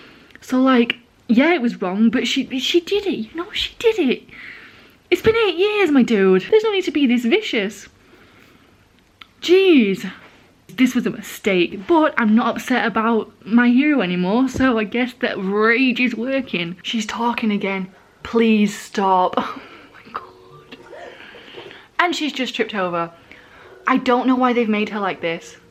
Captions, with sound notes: So yeah it was wrong but she did it, you know, she did it. It's been eight years, my dude. There's no need to be this vicious! Geez. This was a mistake but I'm not upset about My Hero anymore so I guess that rage is working. She's talking again. Please stop! [whispering] Oh my god! And she's just tripped over. I don't know why they've made her like this.